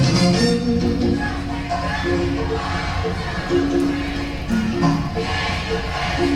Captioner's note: video audience shouting